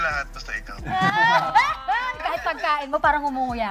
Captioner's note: laughs